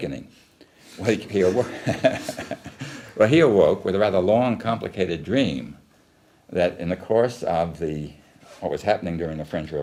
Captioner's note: laughs